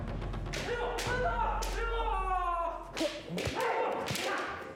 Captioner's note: shouting